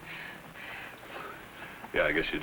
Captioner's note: Dusty gasping